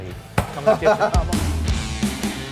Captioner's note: laughs; heavy rock music